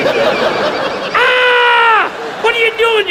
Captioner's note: audience laughs; Chuck screams